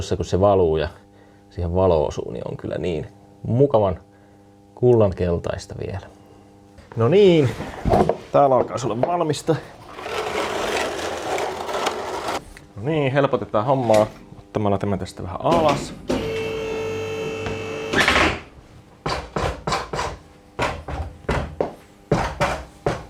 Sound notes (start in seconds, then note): 15.5 machine sounds; 15.8 oil drilling